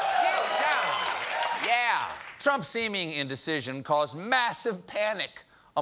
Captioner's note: cheers and applause